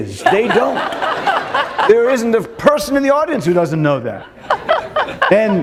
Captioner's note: laughter